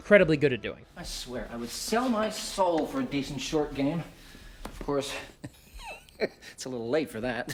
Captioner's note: chuckles